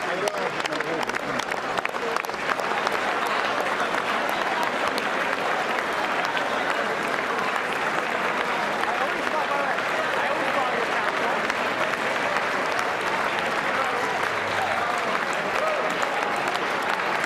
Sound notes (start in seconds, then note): 4.3 applause